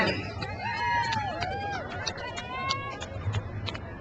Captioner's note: crowd cheers